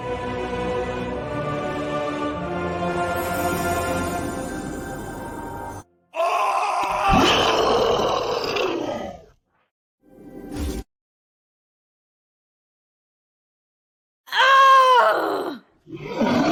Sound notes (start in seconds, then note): 0.3 evil Choir; 6.2 monster Roar; 6.3 shouting; 14.3 shouting